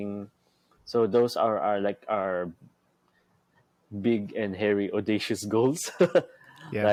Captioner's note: laughs